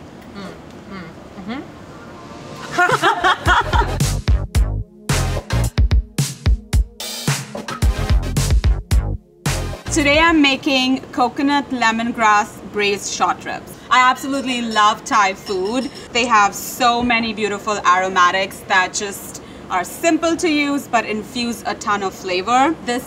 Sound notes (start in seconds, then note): 2.6 both laugh; 4.5 uptempo music